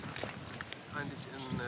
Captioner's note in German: Vogelzwitschern